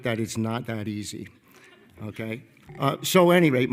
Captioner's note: attendees laughing